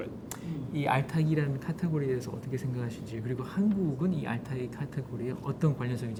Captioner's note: speaking in Korean